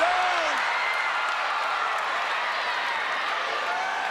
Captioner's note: audience cheers